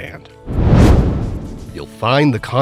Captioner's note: meteor whooshes